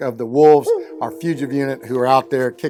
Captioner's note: wolf howls